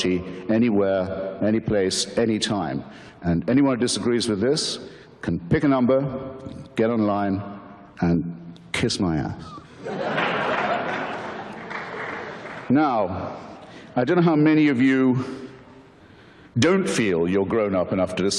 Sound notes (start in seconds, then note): 9.7 audience laughter